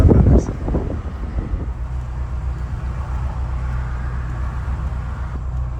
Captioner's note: wind blowing